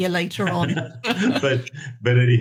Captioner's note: both laughing